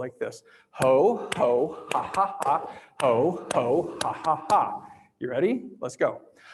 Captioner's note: laughs